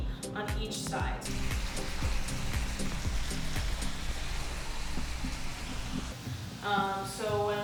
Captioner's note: shrimp sizzling